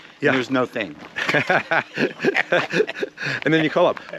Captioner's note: laughing